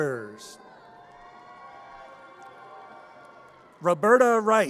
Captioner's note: audience cheers